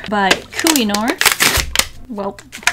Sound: packing rips loudly

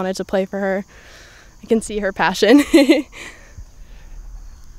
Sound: laughs

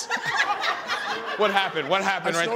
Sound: audience laughing

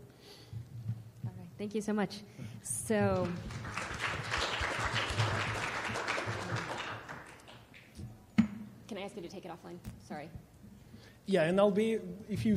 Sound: clapping

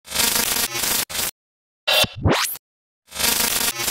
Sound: logo buzzes

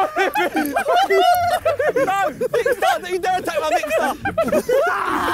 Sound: Sidemen laughing

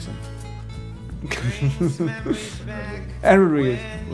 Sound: chuckling; music drowns out speaker

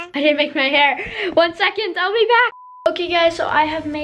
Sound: beep

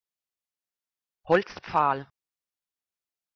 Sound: fast Pronunciation

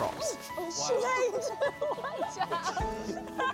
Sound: laughter

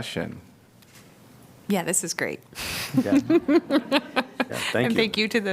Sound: laughter

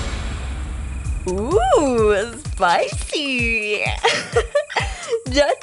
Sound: chuckles

